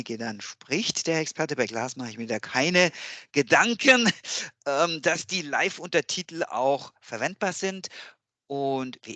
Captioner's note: laugh